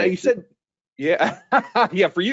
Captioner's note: chuckling